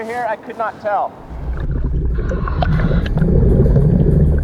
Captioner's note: water burbling; mask hissing